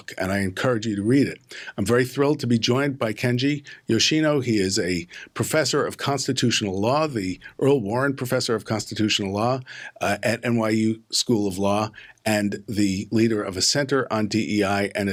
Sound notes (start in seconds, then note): none